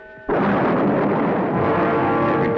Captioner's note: explosion